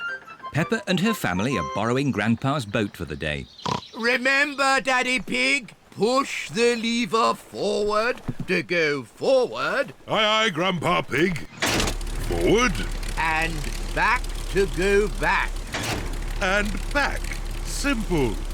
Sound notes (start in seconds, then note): 12.2 lever clunks; 15.7 lever clunks